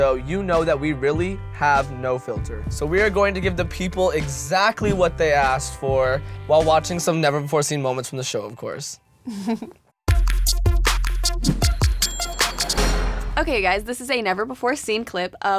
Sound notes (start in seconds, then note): 9.2 laughs; 10.0 funky music